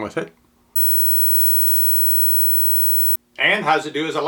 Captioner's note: high pitched hissing